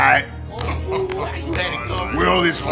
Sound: evil Bens murmur in agreement

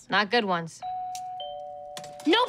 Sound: doorbell rings

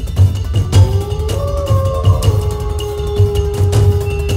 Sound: wolf howling

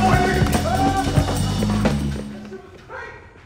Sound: shouts

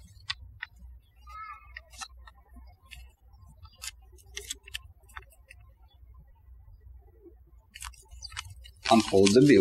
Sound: birds chirping

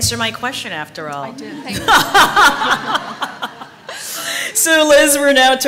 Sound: laughter

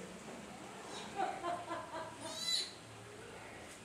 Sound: trainer laughing

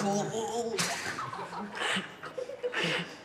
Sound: girls giggling

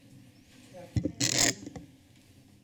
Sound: creaking sound

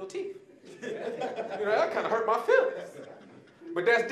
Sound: audience laughing

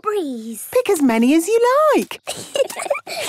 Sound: giggling

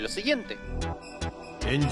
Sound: in Japanese

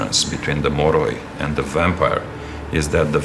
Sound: speaking in foreign language

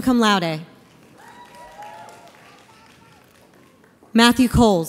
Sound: audience applauds

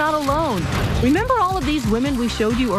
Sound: camera snapping

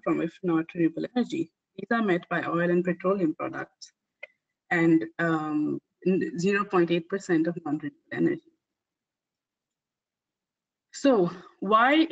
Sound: audio static

